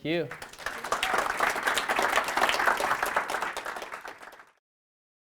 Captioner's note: crowd applauding